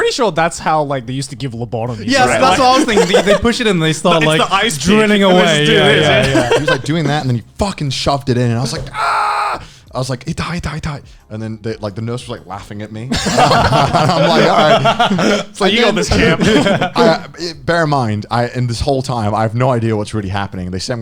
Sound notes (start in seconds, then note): 10.4 speaks in foreign language; 13.1 laughing